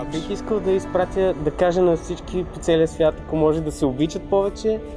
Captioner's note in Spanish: Hablando búlgaro